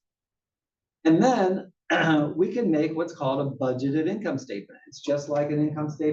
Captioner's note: cough